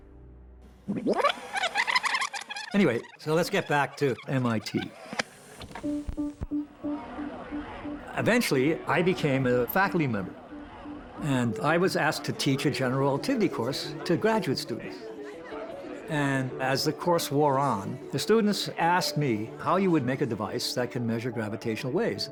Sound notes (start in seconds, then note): 0.9 tape rewinding